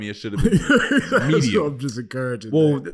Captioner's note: laughing